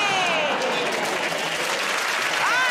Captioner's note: applause